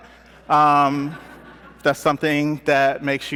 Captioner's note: laughter